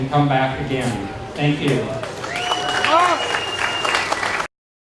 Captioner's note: audience claps